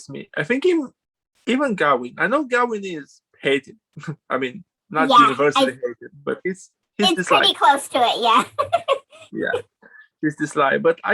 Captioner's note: laughs